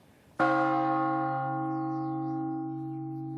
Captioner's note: bell tolls